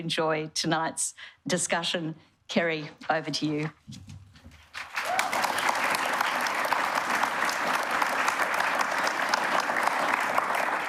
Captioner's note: applause